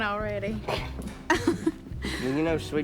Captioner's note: laughs